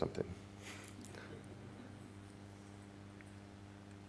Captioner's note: chuckles